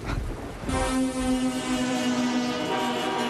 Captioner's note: horns honking